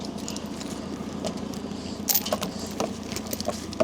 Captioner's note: chain rattling